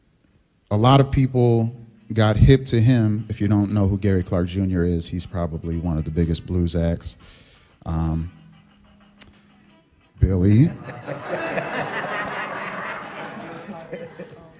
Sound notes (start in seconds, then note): 8.2 cell phone ringtone; 10.7 laughter